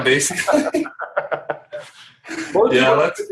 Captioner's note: laughing